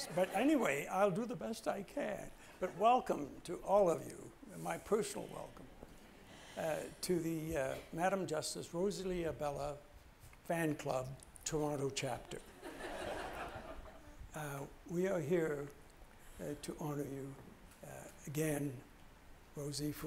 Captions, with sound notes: But anyway, I'll do the best I can. But welcome, to all of you, my personal welcome. To the Madam Justice Rosalie Abella fan club, Toronto chapter. (audience laughs) We are here to honour you again, Rosie,